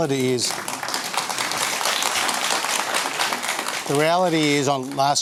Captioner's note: applause